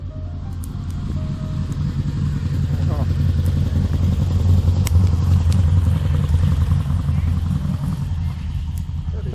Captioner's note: car driving